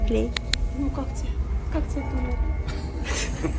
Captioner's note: laugh